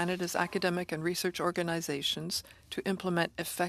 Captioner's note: speaking French